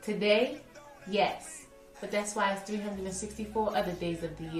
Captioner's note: voiceover